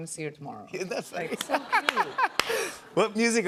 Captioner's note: laughter